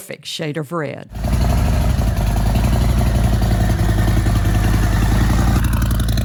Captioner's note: motorcycle engine roaring